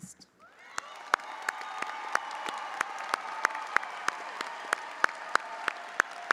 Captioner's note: audience applauding; audience cheering